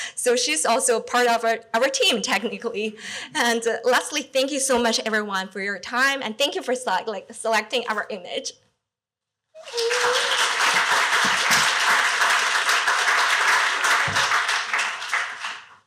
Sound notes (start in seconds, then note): 9.6 applause